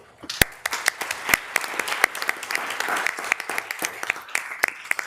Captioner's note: members applauding